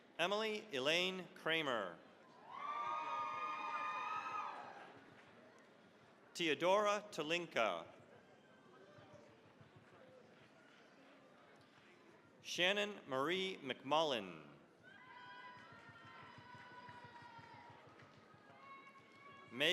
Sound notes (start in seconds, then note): 2.3 cheering, applause; 9.0 applause; 14.8 cheering, applause